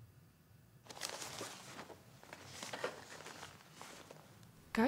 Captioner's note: supplies rustling